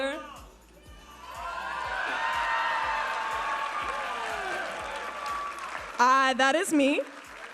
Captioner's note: audience applauding and cheering